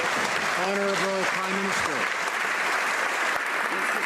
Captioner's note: some Applause